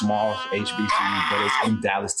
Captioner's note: squeals